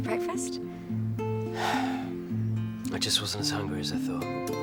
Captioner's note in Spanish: suspira